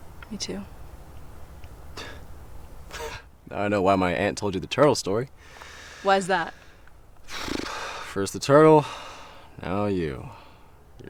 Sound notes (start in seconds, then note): 2.8 chuckles; 7.2 lips blowing